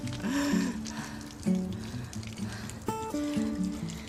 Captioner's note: heavy breathing